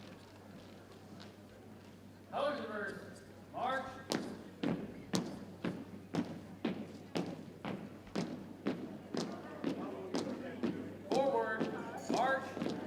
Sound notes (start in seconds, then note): 4.3 boots thumping